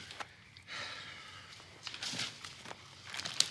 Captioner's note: sighs